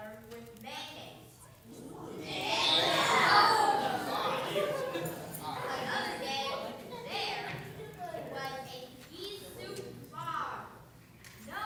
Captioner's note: gagging sounds